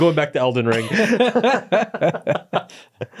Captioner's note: both laughing